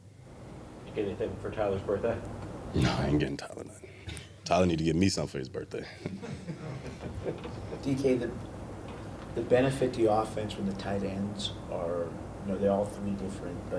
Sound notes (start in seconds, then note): 6.0 reporter laughs